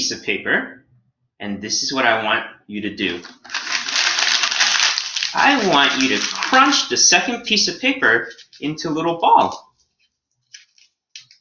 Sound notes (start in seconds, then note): 3.1 paper crumbling